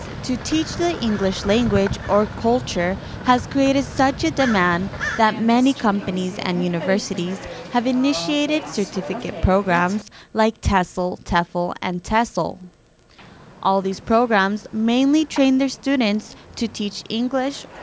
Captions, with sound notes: TO TEACH THE ENGLISH LANGUAGE OR CULTURE HAS CREATED SUCH A DEMAND THAT MANY COMPANIES AND [BACKGROUND CONVERSATION] UNIVERSITIES HAVE INITIATED CERTIFICATE PROGRAMS LIKE TESOL, TESL, TEFL. ALL THESE PROGRAMS MAINLY TRAIN THEIR STUDENTS TO TEACH ENGLISH,